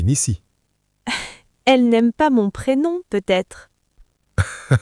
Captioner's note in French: rire